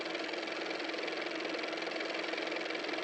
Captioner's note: car motor